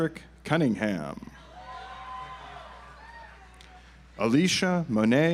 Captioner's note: audience applauds